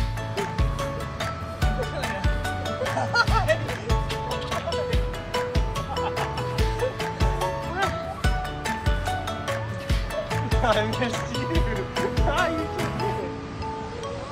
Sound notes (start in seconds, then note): 0.1 upbeat music; 5.9 laughs